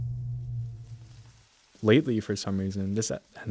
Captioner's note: forest ambience returns